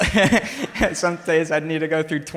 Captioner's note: laughs